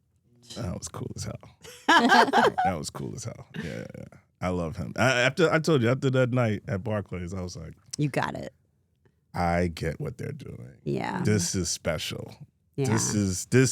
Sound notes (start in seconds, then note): 1.7 Steph and Elyse laughing